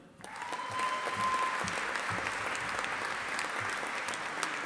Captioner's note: audience applauding